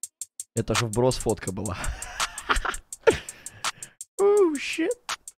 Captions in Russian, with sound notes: это же вброс фотка была (удивляется на старопроваславном)